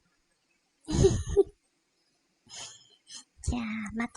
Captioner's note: laugh